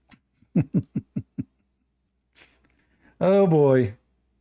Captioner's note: Ketawa